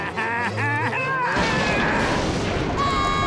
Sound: laughing; thundering; screaming

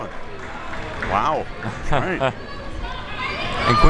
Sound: laughs

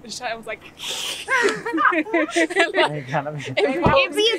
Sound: laughter

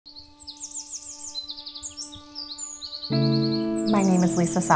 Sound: gentle music; birds chirping

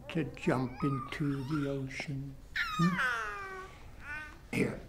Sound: baby noises

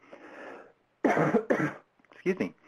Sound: coughs

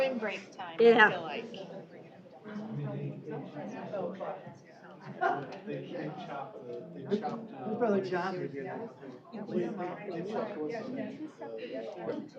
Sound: off-mic chatter

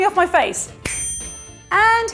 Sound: chiming

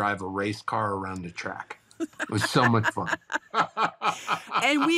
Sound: both laughing

